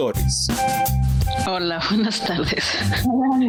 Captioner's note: chuckles